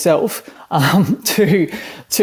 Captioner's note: chuckles